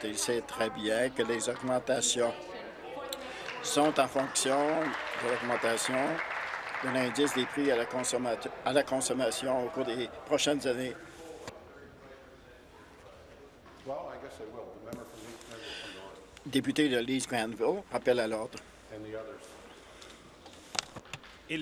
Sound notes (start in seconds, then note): 7.8 applause; 14.4 conversation din